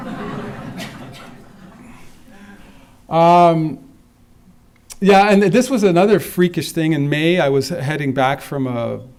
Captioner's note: laughter